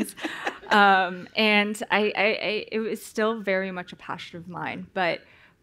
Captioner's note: laughter